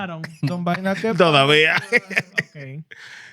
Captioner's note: laughing; speaking In Foreign Language